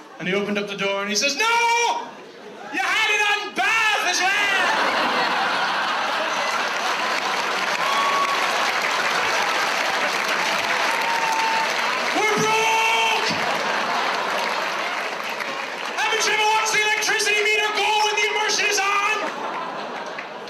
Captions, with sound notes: And he opened up the door and he says, "No! "You had it on bath as well! (audience laughs) (audience applauds) "We're broke! "Haven't you ever watched the electricity meter go when the immersion is on?"